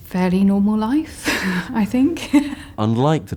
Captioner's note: laughs